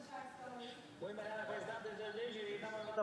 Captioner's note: speaking FRENCH